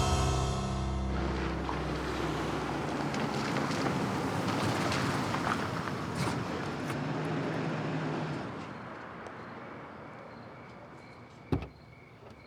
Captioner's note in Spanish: ruido del auto llegando